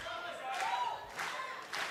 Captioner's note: clapping